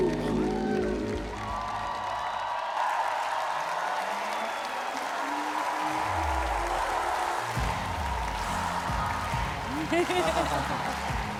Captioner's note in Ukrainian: оплески